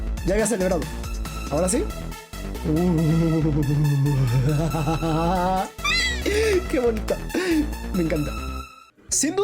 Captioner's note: evil victory laugh